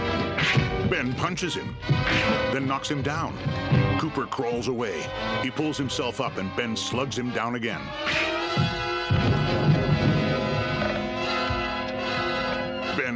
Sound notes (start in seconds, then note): 0.3 loud smack; 9.0 thud